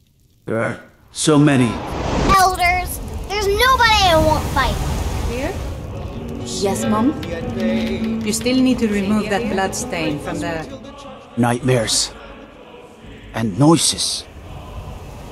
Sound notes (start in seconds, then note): 1.0 flashback swoosh!; 2.2 child boasting and yelling; 5.8 bar atmosphere